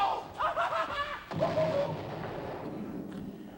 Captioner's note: cackles